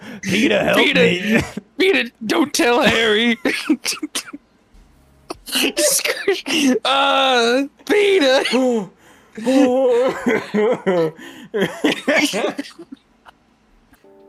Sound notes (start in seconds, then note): 3.3 laughter; 9.4 laughing; 11.4 laugh coughing